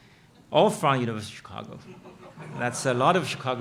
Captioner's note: audience laughing